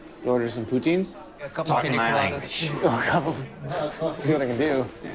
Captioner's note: agreeable murmuring